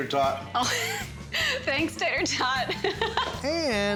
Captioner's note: laughing